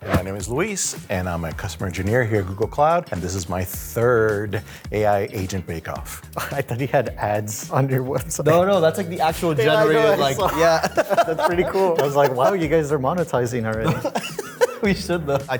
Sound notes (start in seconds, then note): 9.2 laughs